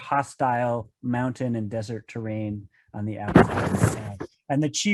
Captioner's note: mic static